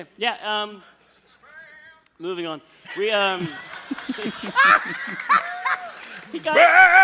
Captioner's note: laughter